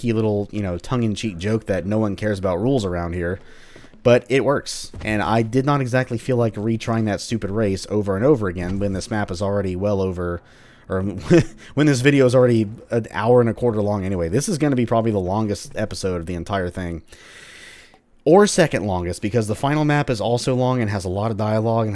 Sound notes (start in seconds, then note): 11.0 chuckles